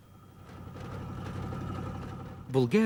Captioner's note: engines rumbling